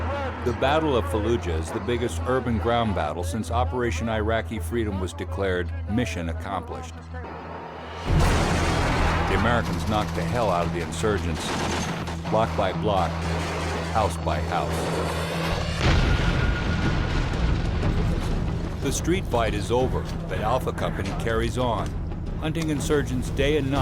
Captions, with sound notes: - [Voiceover] The battle of Fallujah is the biggest urban ground battle since Operation Iraqi Freedom was declared "mission accomplished." [Explosion] The Americans knocked the hell out of the insurgents... block by block, house by house. [Explosion] The street fight is over but Alpha Company carries on, hunting insurgents day and night,